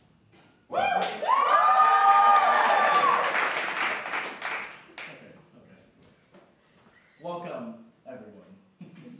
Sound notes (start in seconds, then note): 1.8 applause